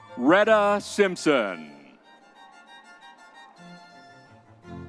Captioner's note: crowd cheering